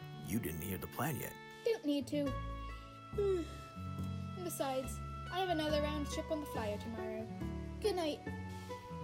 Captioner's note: yawns